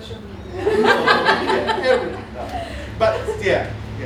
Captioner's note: laughter